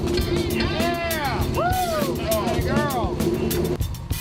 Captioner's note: cheering